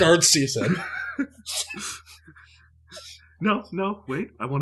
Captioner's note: laughter